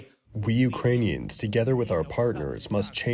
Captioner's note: through translator